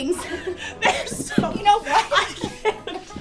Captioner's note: laugh; laughs